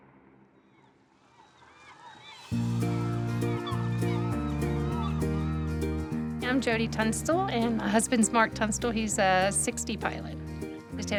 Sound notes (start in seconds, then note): 1.3 seagulls squawk; 4.3 pleasant guitar music